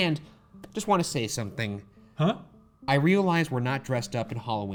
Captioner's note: none